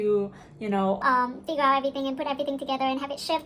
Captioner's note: voice distorted to high speed